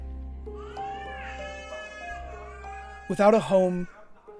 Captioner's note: child crying